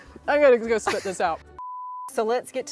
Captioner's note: beep